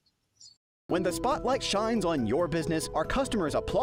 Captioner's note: voiceover